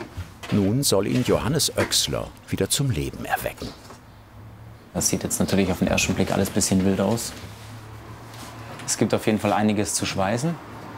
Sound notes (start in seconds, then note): none